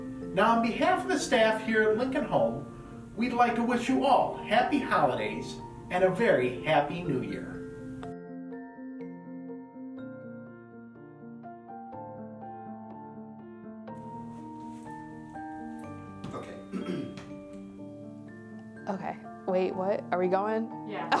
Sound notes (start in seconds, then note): 16.3 clears throat